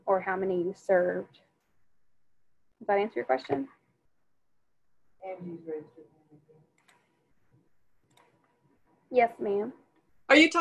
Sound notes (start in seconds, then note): 6.6 speaking faintly